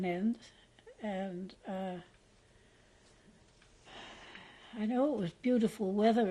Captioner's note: pauses for 3 seconds; sighs